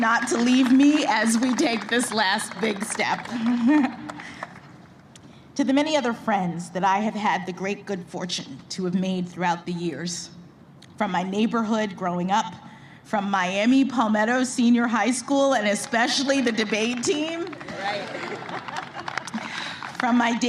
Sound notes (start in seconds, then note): 4.7 applause